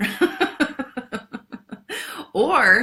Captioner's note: laughs